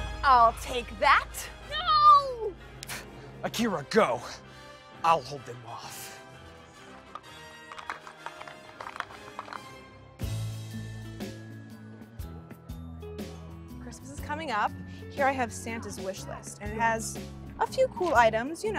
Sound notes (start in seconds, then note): 7.6 clacking; 10.7 festive music